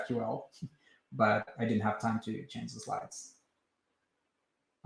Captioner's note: chuckles